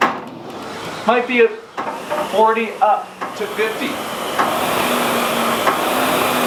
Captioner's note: SkiErg whirring